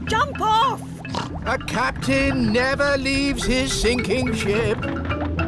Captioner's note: snorts